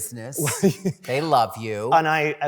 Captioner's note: laughter